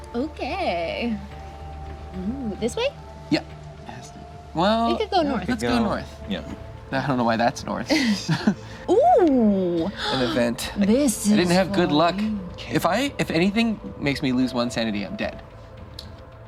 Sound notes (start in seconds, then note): 7.8 laughing; 9.8 gasps